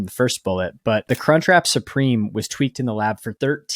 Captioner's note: screen clicking